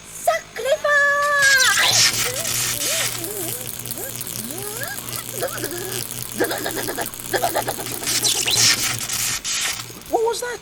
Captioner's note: buzzzz sound as Mum gets electrocuted